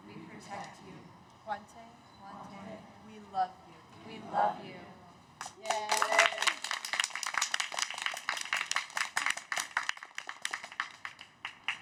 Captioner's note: cheers